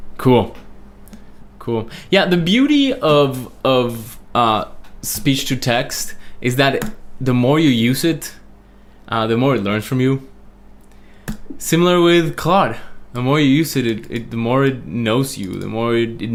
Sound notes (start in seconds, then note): none